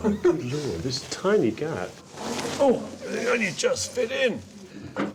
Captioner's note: chuckles; grunts